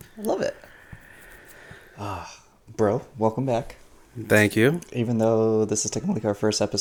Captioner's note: sigh